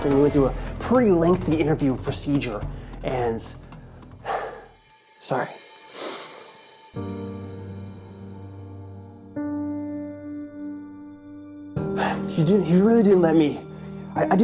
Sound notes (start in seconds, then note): 4.1 sighs; 5.9 sniffles; 6.2 somber music